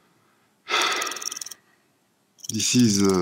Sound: sigh

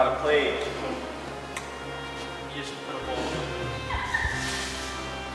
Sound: random Laughter

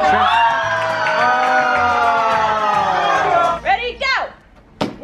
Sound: crowd yells

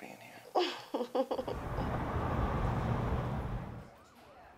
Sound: giggling

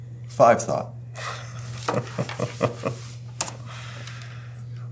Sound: laugh

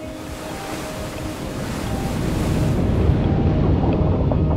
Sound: waves crashing

